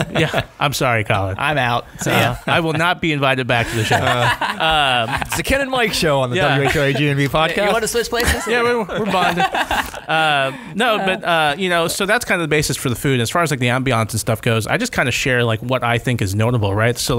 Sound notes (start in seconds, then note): 3.6 laughter; 8.1 laughter